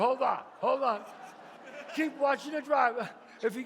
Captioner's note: audience laughs